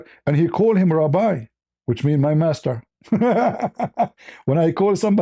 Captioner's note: laughter